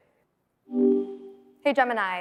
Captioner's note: tone beeping